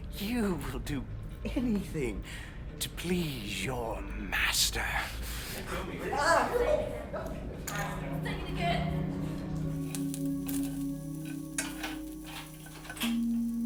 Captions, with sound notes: You will do anything to please your master. (laughs) - Say it again! (solemn ambient music)